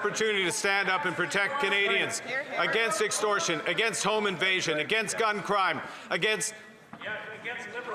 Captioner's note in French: voix de l'interprète